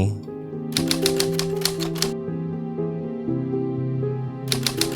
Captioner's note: typewriter clicking